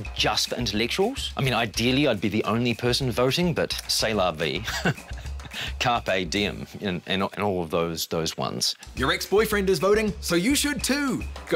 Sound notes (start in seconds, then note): 4.6 laughs